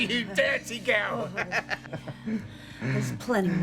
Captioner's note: laughs